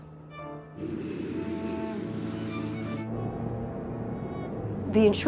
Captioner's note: jet engine roaring